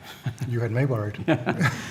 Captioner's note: laughs